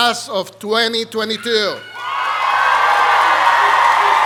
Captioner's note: applause